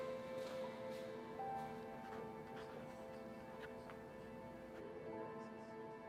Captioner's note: pen scrawling